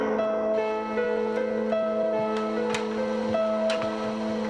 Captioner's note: TV Static